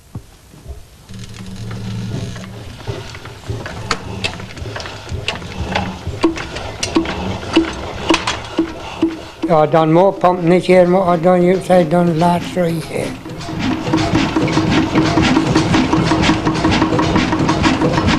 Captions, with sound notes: [Sounds of pumps being started] I done more pumping this year than what I've done for the past three year. [Pumping noises]